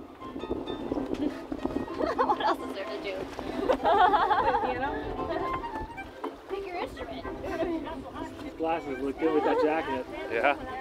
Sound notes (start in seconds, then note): 3.5 laughter